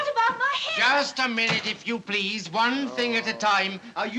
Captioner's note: groans